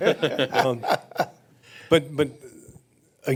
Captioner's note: laugh